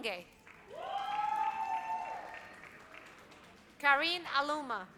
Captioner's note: audience cheers